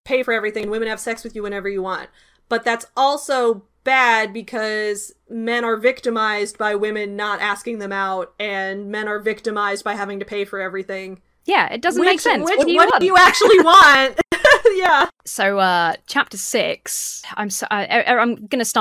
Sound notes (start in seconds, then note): 14.1 laughs